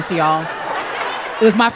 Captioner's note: crowd laughs